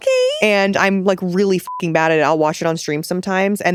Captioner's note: beep